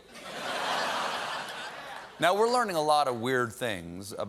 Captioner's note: laughter